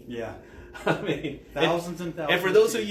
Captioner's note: laughing